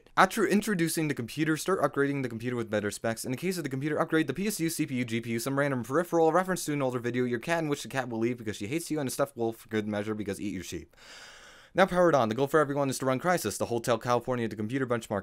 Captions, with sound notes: After introducing the computer, start upgrading the computer with better specs. In the case of this computer, upgrade the PSU, CPU, GPU, some random peripheral, a reference to an older video, your cat-in which the cat will leave because she hates you, and a stuffed wolf for good measure, because “EatYourSheep”. [Breath] Now power it on. The goal for anyone is to run Crisis, the “Hotel California” of the computer benchmarking